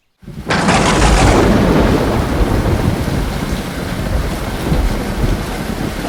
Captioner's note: rain pattering; thunder cracking